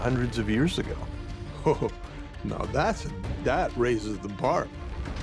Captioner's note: chuckles